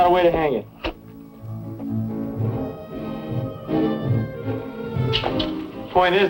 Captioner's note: spitting